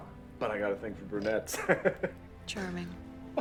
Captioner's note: laughing